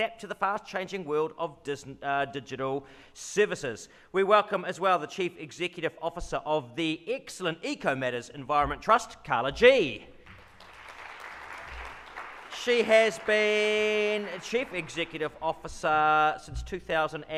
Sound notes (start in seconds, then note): 10.2 audience claps